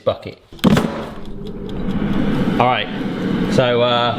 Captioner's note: tray banging; air fryer whirring